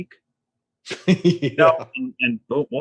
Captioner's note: laughs